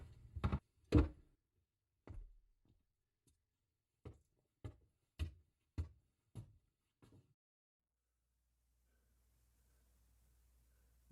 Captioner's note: silence